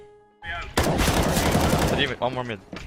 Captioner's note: gunshots ring